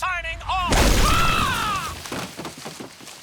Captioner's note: screaming